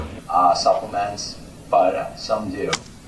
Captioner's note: through computer